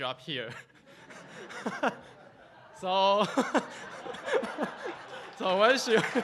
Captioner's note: audience laughing and applauding